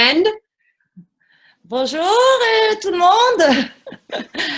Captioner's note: speaking French Welcome; laugh